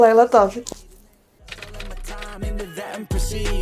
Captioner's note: typewriter sound